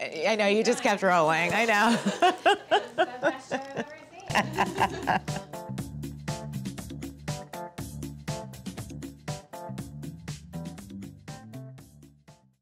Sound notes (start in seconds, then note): 1.4 laughing; 4.6 upbeat music